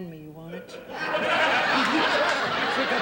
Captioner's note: audience laughing